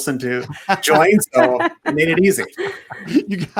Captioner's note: all laughing